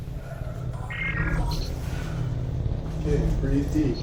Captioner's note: devices beeping